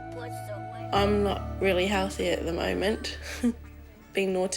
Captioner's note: chuckles